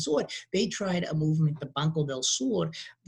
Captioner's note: speaking in a foreign language